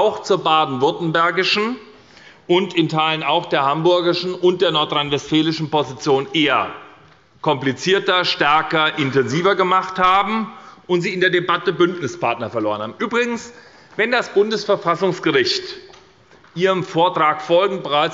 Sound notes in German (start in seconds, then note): none